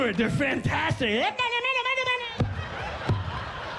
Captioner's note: imitates speaking Spanish